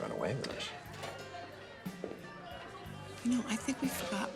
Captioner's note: bar patrons chattering